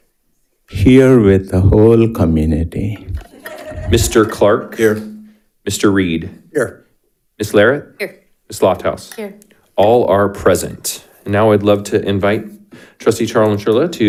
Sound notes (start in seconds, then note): 3.2 audience laughs